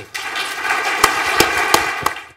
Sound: applause

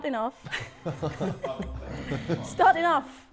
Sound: Sidemen laughing

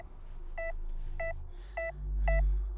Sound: heart monitor beeps faster

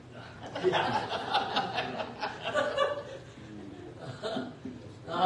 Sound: laughter

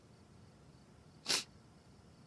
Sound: sniffles

